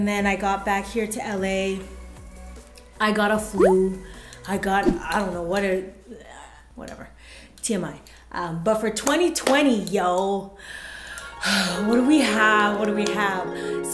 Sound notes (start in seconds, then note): 4.8 throwing up sound; 11.2 dreamy music